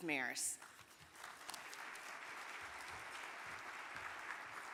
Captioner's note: audience clapping